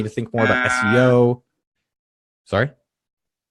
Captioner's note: alarm blaring